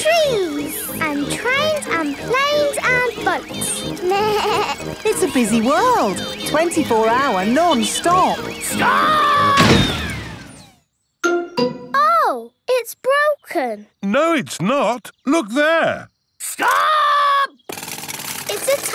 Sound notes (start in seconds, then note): 4.2 bleats; 9.5 thuds